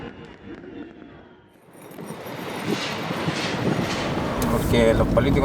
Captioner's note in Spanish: Sonido ambiente de autos por la calle